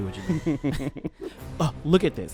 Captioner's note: laughs